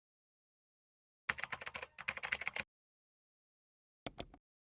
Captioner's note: keyboard clanking